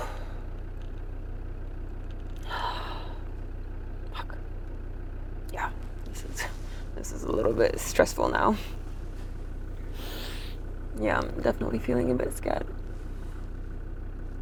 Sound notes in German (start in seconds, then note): 2.4 atmet tief durch